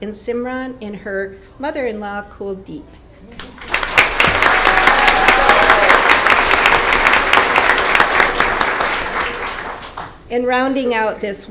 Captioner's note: applause